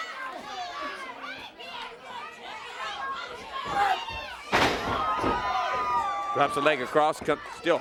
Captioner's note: crowd chatter